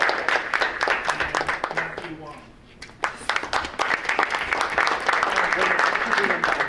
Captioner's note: audience applauding; audience applauding